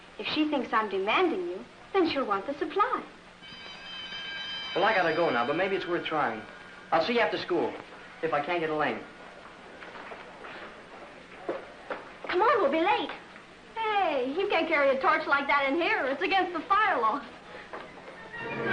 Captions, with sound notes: If she thinks I'm demanding you, then she'll want the supply. [School bell rings] Well I gotta go now but maybe its worth trying. I'll see you after school. If I can't get Elaine. Come on! We'll be late! Hey, you can't carry a torch like that in here, it's against the firewall.